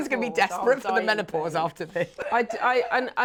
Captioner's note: chuckles